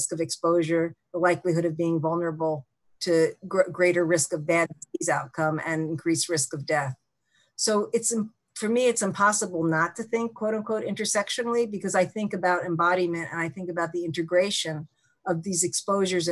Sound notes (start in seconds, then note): 4.2 audio distorting